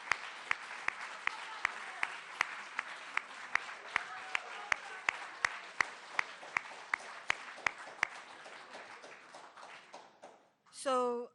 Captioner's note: applause